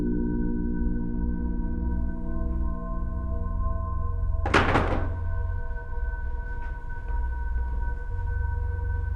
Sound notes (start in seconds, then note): 4.5 rifle slams